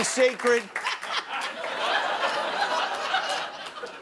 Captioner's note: scattered applause